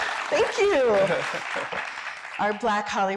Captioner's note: laughing